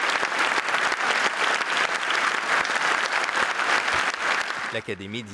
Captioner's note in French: applaudissements